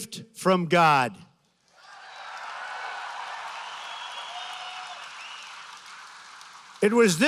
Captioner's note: applause